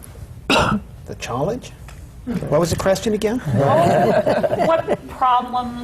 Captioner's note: laughter